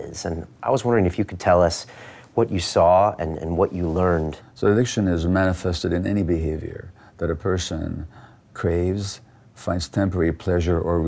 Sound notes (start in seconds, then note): none